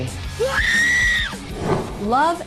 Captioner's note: screaming